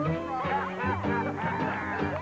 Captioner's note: laughing